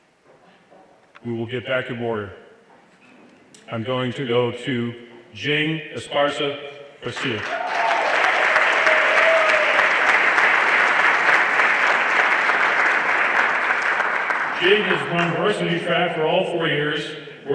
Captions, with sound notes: We will get back in order. I'm going to go to Jayden Esparza Garcia. (everyone applauding) Jayden has run varsity track for all four years